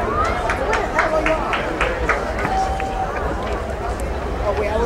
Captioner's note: crowd applauding